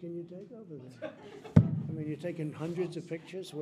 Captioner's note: laughter